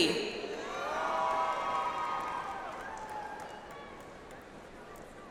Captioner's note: audience applauds